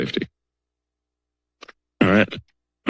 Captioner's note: silence